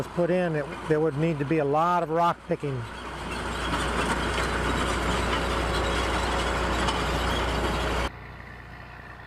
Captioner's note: diesel engine sound; diesel engine sound